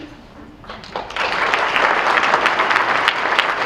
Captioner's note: clapping